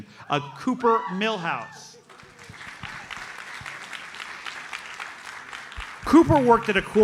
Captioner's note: audience applauds